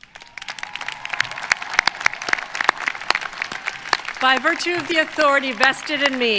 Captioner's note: applause